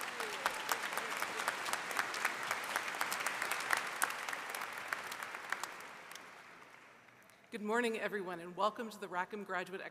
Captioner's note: applause